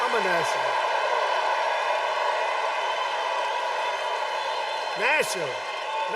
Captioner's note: cheers and applause